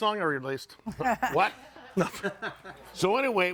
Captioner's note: audience laughing